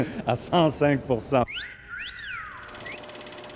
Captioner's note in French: sifflement